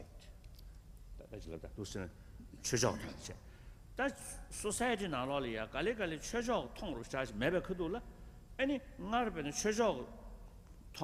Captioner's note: foreign words